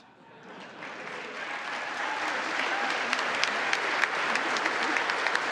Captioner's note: congress applauding